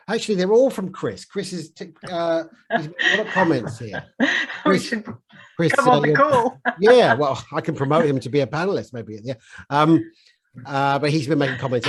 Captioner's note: laughs